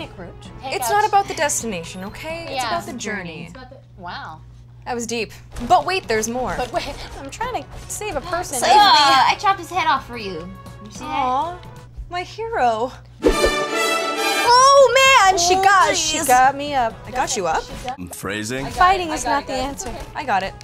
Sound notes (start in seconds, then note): 3.4 in Unison; 13.2 horn music